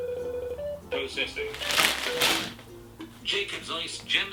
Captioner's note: phone makes rapid beeps; phone plays tune; phone speech